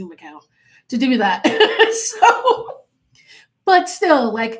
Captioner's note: laughing